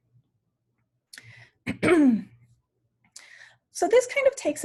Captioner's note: clears throat